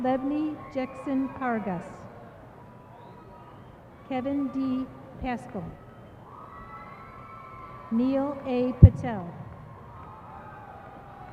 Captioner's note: applause